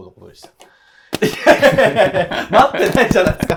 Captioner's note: laughing